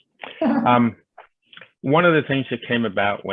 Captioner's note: chuckles